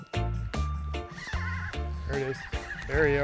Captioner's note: reel whirring